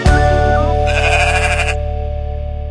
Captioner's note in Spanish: Sonido de oveja